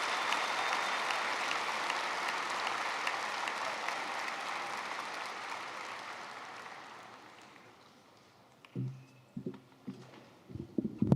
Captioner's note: applause